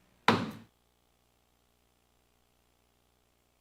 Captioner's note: table banging